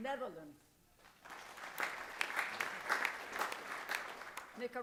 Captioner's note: applause